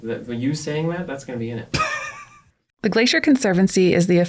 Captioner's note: laughs